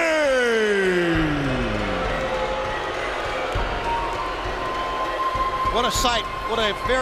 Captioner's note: crowd chatter